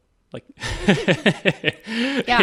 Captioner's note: laughing